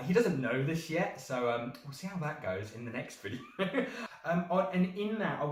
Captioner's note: nervous chuckle